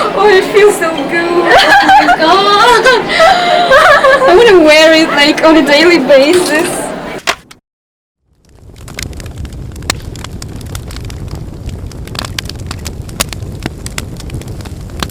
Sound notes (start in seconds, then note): 1.3 laughs; 3.1 giggles